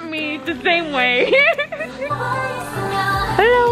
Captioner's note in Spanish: se ríe